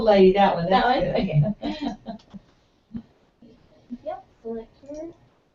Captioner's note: laugh